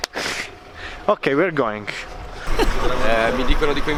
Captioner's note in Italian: Inglese